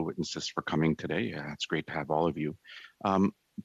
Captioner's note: speaking French